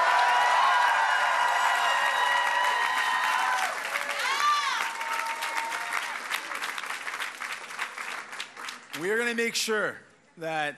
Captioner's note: cheers and applause